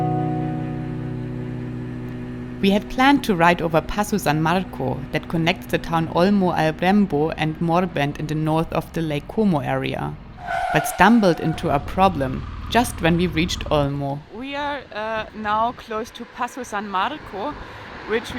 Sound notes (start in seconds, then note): 10.3 tires screeching